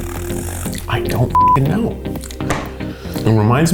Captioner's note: beep